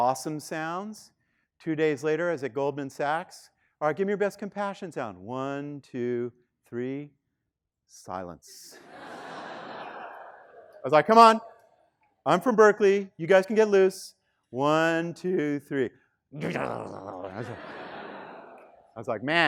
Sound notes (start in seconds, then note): 8.7 students laughing; 16.4 grunting; 16.4 students laughing